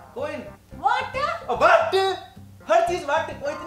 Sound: Omakara yells

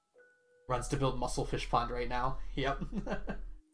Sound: laughs

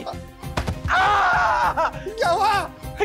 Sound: screaming

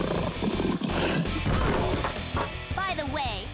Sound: roaring

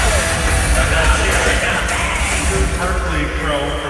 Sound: cheering

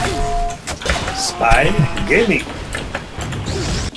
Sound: laughing

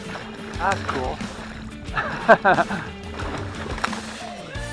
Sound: laughs

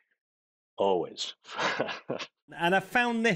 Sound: chuckling

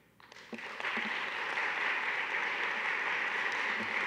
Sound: audience clapping

